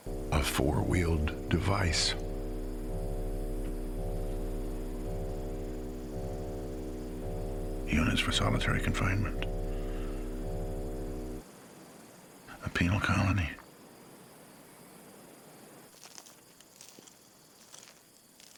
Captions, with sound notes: A four-wheeled device. (Static) Units for solitary confinement. A penal colony.